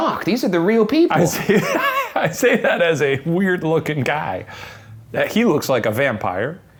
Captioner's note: laughing